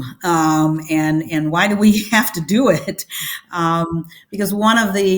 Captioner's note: laughs